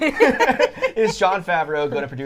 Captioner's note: all laughing